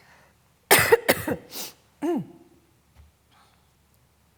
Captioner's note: coughs